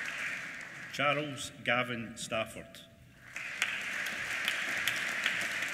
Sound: applause

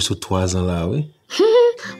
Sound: giggles

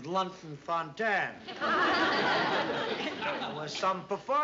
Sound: laughter

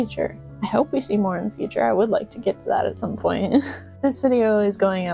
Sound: laughter

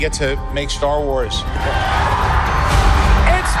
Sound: cheers

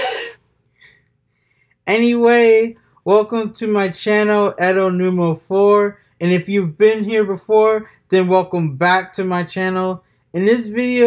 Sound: sighs and said

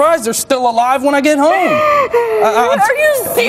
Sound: cries

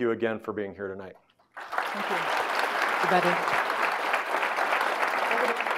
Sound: audience clapping

